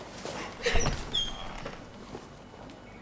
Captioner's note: sobs